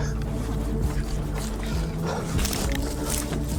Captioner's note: heavy breathing